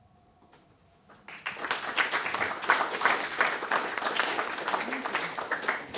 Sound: audience applauding

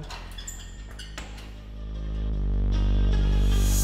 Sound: metal creaks; hiphop music

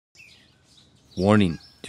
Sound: birds chirping

